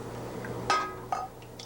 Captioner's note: clink; pouring noises